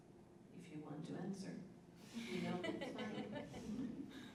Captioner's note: laughter